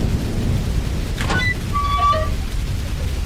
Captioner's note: metal hatch opening